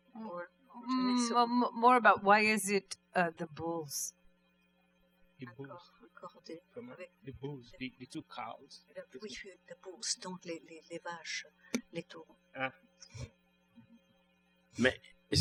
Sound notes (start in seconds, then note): 9.8 speaking french